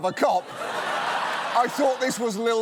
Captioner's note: laughter